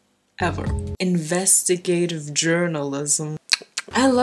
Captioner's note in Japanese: 変な口の音